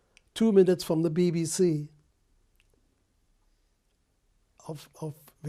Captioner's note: pauses for 3 seconds